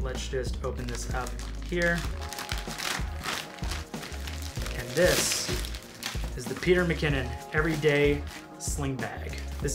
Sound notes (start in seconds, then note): 2.5 gentle music; 2.5 plastic rustling